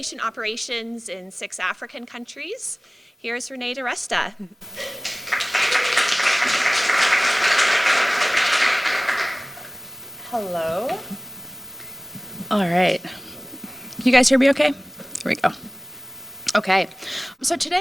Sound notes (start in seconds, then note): 4.7 applause